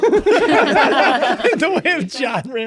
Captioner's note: all laughing